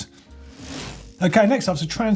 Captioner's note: whoosh